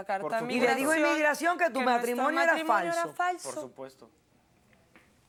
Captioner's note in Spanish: Hablan al unísono